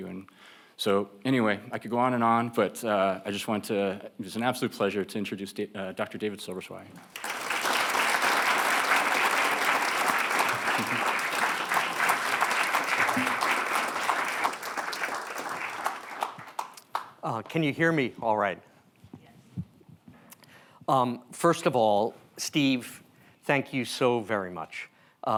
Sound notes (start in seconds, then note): 7.5 audience applauding